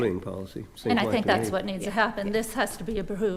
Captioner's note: continues quietly